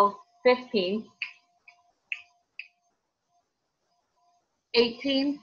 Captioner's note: fingers snapping